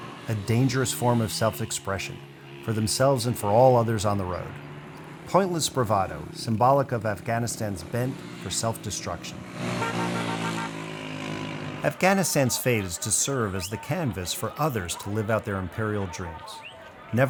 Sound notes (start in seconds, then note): 9.5 car horns honking